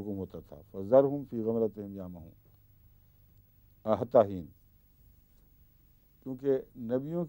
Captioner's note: Arabic